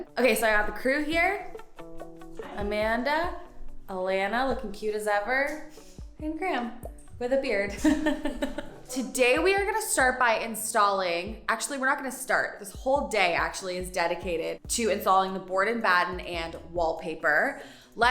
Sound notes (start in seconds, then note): 7.8 laughing